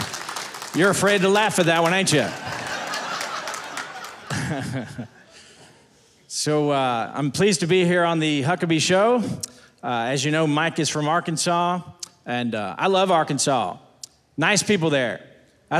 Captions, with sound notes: You're afraid to laugh at that one, ain't ya? (audience laughing) So I'm pleased to be here on the Huckabee Show. As you know, Mike is from Arkansas and I love Arkansas, nice people there.